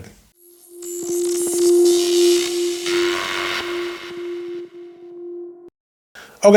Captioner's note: electric current buzzing; bright notes